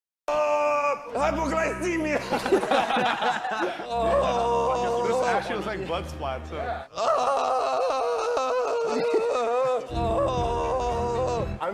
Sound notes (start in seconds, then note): 3.7 dying sounds